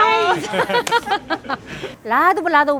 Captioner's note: everybody laughs